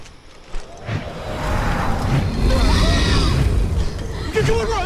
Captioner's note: animal growls